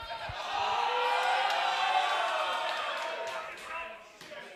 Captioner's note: crowd cheering